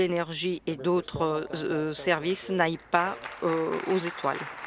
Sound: applause

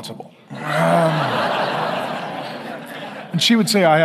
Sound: congregation laughing

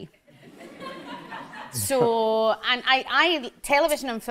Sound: audience laughs

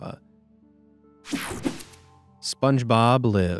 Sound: image whooshing

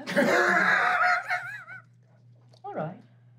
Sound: laughing

